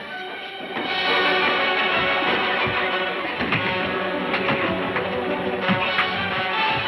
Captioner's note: dramatic music; blows thudding